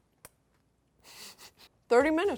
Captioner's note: chuckles